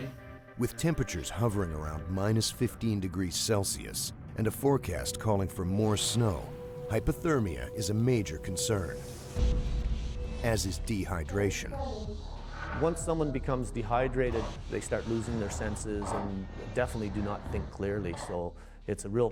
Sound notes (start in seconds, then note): 3.2 voiceover; 10.5 voiceover